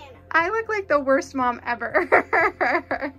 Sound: laughing

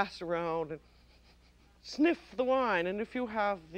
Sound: sniffs

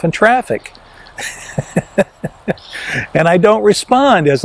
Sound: laughs

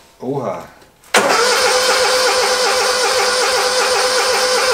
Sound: engine start noise

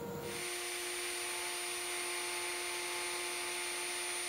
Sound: router whirring

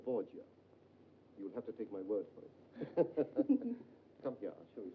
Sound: laughs

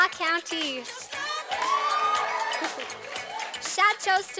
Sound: sound of cheers from the audience

